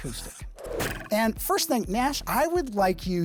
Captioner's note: pencil scratching; arrow twanging